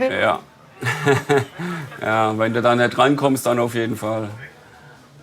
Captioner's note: laughs